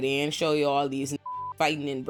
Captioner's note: beep